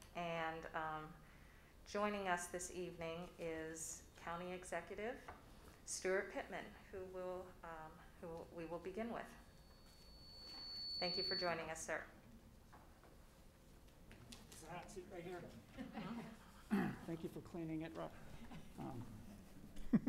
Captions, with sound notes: And joining us this evening is county executive Steuart Pittman, who will, who we will begin with. Thank you for joining us, sir. - That seat right there. (laughing) Thank you for cleaning it.